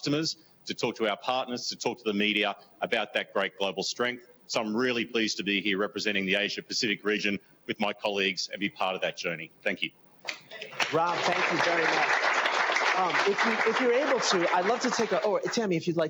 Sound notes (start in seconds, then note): 10.6 applause